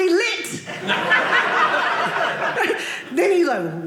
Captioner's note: audience laughing